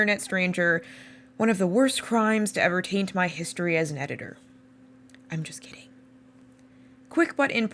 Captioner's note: whispered: I’m just kidding